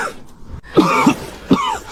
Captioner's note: cough